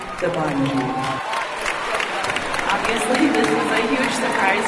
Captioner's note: cheering and applause